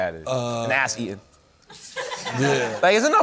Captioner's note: laughter